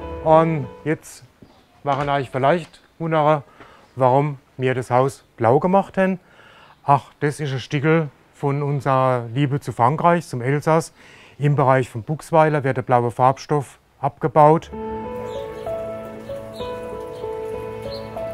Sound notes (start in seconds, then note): 14.6 dreamy music; 16.5 birds chirping